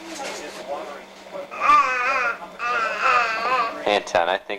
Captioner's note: ahhh!